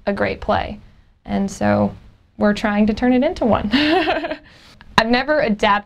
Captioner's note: laughs